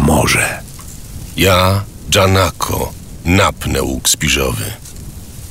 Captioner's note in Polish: szum